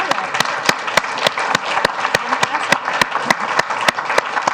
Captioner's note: applause